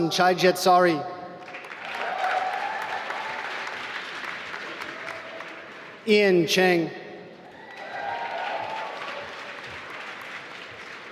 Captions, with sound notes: Wasan Chaijedsarid (applause) Jen-Hao Cheng (applause)